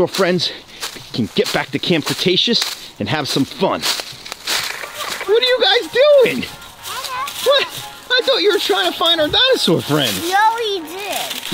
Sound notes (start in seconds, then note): 4.0 static crackles; 10.6 happy music